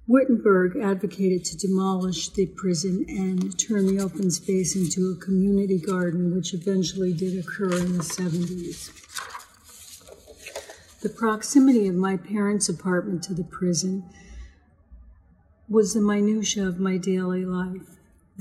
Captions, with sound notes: Wittenberg advocated to demolish the prison and turn the open space into a community garden, which eventually did occur in the '70s. (paper rustling) The proximity of my parents' apartment to the prison was the minutiae of my daily life.